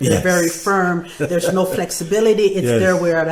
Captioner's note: laughing